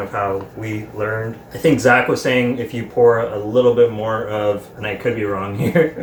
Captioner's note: laughing